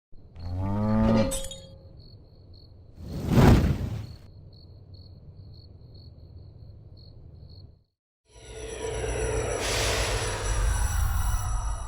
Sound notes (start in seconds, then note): 0.4 cow mooing; 0.7 glass shatters; 2.1 crickets stridulating; 3.0 fire bursts; 8.6 transition effects